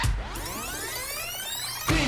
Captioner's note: tape rewind